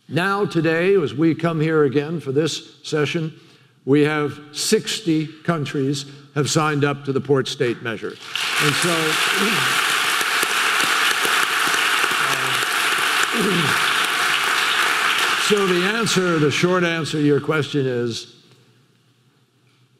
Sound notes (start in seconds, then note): 9.9 audience clapping